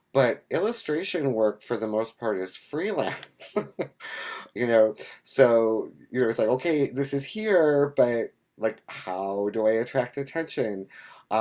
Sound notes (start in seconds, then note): 3.0 laughs